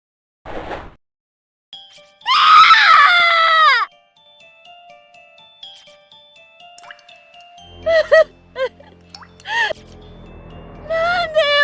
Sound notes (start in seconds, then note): 7.8 crying